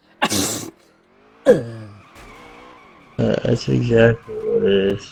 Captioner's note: sneeze